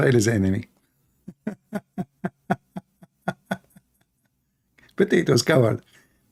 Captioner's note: Ketawa